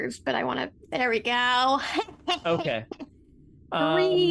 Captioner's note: laughs